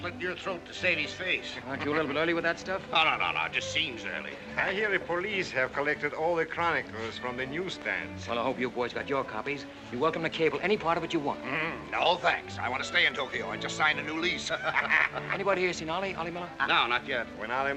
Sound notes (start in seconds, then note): 14.1 laughs